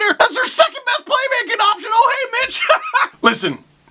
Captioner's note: laughter